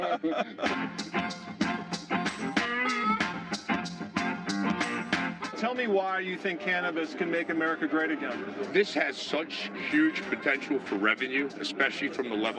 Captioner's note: laughter